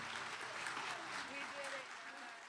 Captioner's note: audience applauding